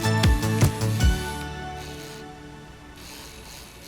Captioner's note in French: bruit d'une perceuse